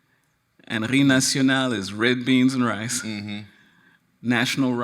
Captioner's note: speaks in foreign language